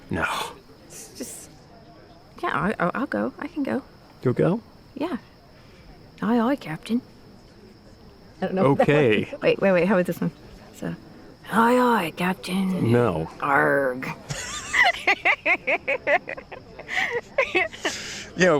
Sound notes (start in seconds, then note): 11.2 imitating pirate; 14.2 both laughing